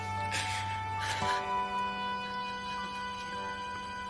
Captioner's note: Alice crying